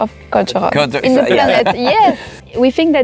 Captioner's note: laughs